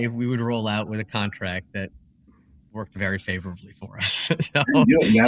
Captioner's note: laugh